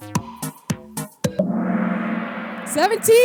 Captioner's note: gong sound